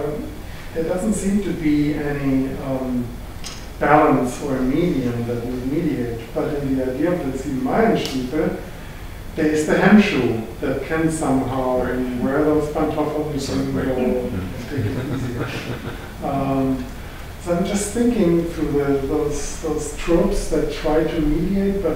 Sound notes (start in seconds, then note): 6.9 foreign language